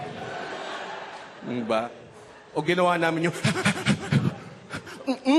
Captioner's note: blowing out air